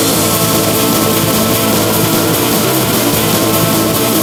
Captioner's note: breathing and grunting